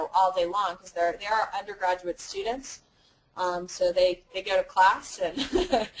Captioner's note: laugh